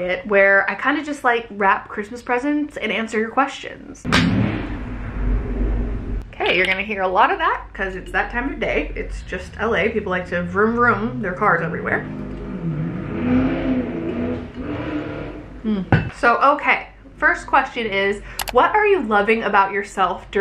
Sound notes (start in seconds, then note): 4.2 car zooms by loudly